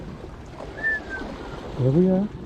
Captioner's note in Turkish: whistles